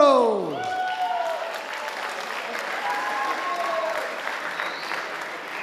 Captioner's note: audience applauding and cheering